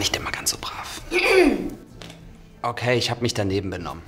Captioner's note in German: Laura räuspert sich laut